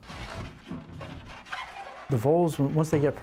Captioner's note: lid creaks and shuffles